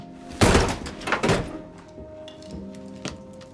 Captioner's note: door thuds